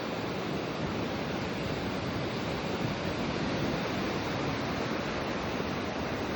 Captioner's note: gentle wave sounds begin